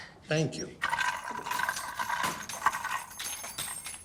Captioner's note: keys clattering